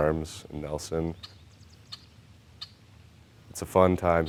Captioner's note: bird chirping